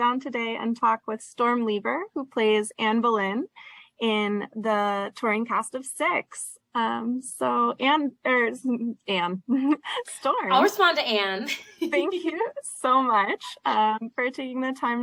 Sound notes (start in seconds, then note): 11.4 laughs